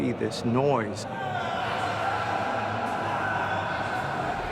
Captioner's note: screaming